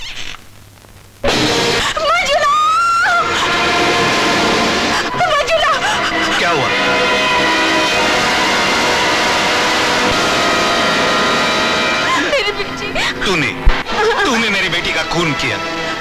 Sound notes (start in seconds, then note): 1.3 screams